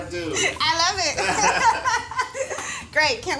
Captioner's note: both laugh